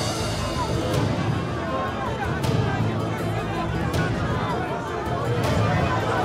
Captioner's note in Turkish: Kalabalık bağrışma sesleri